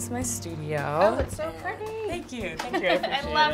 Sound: laughs

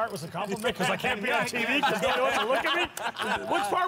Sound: laughter drowns out speech

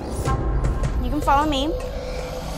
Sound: alligator hisses

